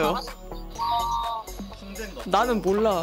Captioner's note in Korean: 응애